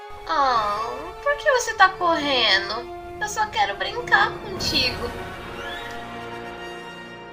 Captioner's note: explosion